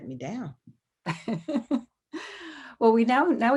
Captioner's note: laughs